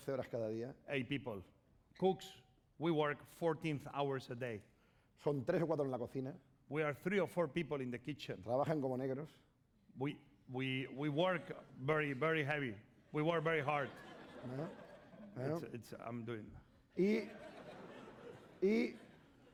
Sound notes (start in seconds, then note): 0.0 speaking spanish; 5.7 speaking spanish; 9.1 speaking spanish; 18.0 speaking spanish